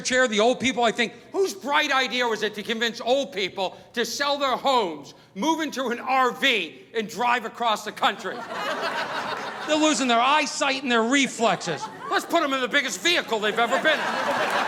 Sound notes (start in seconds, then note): 8.2 audience laughing